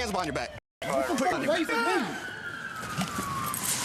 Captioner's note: indistinct shouting